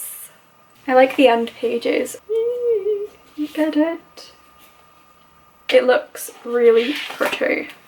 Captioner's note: more excited noises